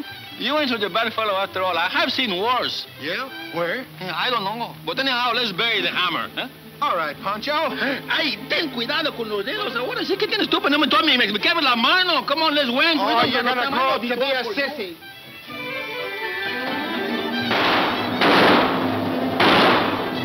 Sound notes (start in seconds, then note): 6.1 speaking in foreign language; 17.4 gunshots; 18.7 elevator whirring